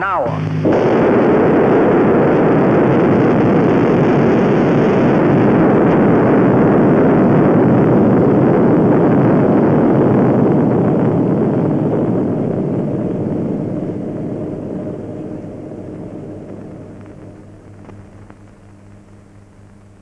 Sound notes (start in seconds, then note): 1.8 sound of explosion and rumble